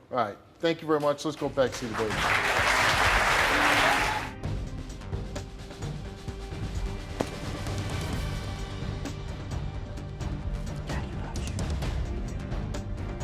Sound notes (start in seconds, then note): 1.6 audience clapping; 4.5 suspenseful music